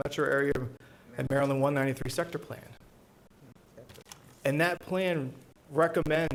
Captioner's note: board discussing quietly